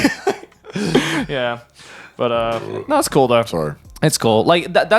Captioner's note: chuckles; burps